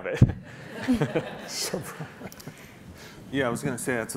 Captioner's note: laughing